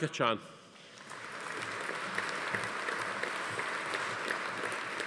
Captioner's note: audience applauding